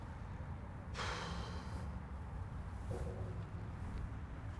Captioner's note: sighs